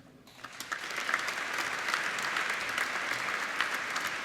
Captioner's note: applauding